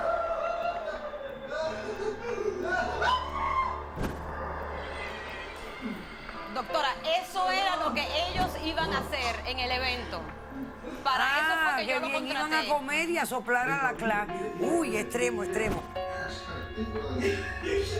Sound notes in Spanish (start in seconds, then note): 0.0 Soplidos; 0.0 Risas y gritos